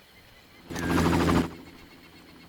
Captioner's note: distant bird cawing